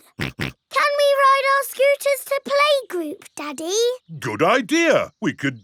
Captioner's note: snorts